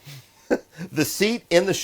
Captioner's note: laughing